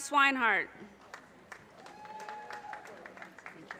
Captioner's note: audience cheers and applause